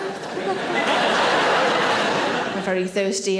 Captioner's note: audience laughing